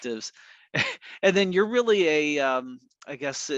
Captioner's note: chuckles